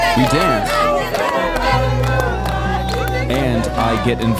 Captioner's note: people cheering